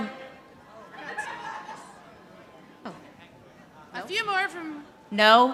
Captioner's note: audience laughing